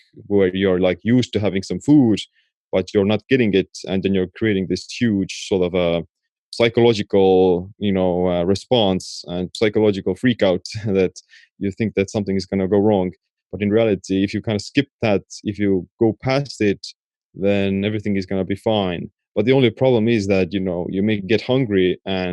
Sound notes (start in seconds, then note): 10.5 chuckling